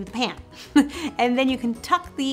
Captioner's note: chuckling